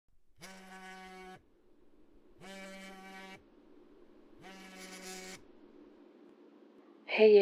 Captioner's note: phone vibrating